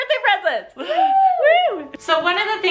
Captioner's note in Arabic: تهتف الفتاة